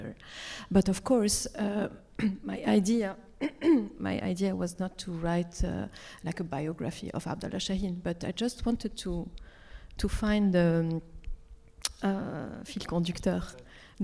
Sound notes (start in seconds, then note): 2.8 clears throat; 10.1 speaks Arabic